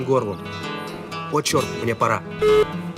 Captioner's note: on phone